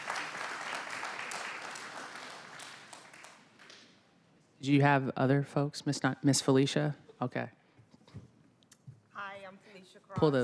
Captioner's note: applause